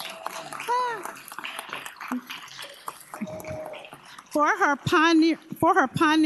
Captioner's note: applause